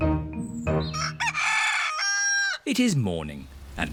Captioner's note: cockerel crows